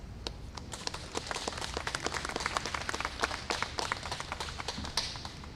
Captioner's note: applause